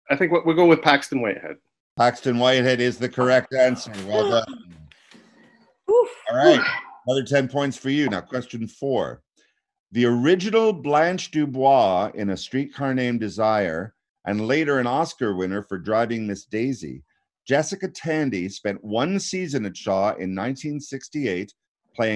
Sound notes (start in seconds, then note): 5.1 sighing